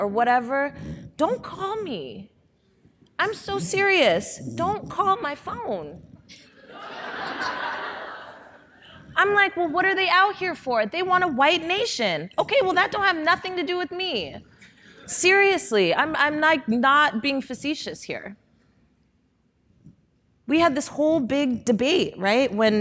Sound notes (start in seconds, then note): 6.6 audience laughing